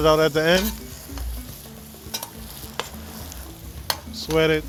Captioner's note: spoon clanking